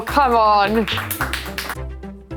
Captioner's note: applause